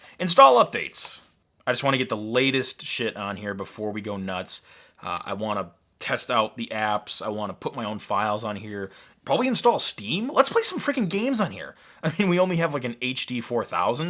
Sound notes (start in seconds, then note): none